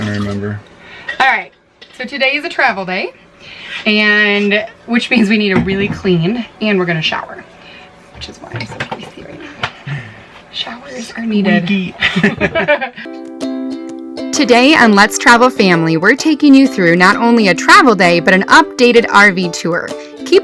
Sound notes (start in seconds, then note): 12.1 laughing; 13.7 upbeat music